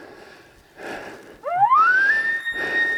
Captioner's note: caller bugling